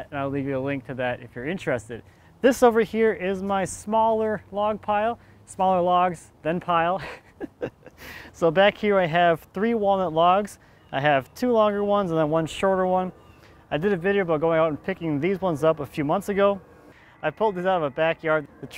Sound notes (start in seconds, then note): 7.0 laughs